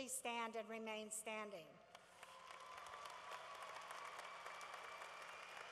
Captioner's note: cheering